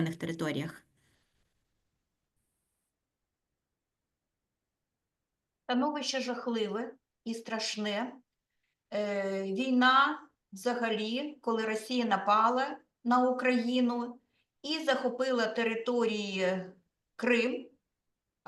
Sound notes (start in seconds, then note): 5.8 speaking Ukrainian